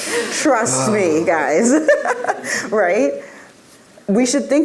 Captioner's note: laughs